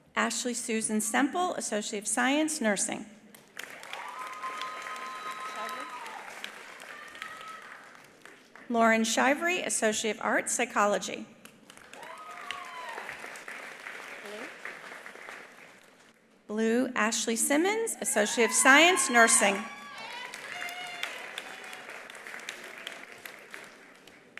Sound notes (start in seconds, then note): 3.4 attendees applauding; 3.8 attendees cheering; 11.6 attendees applauding; 11.9 attendees cheering; 17.9 attendees cheering; 21.1 attendees applauding